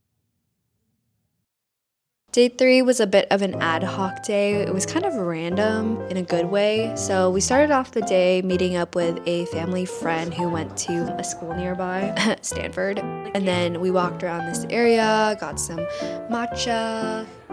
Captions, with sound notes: Day three was a bit of an ad hoc day. It was kind of random in a good way. So we started off the day meeting up with a family friend who went to a local school nearby *cough* Stanford *cough* and then we walked around this area, got some matcha.